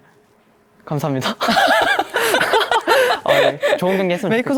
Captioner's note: laughs